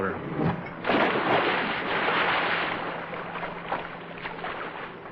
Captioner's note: splash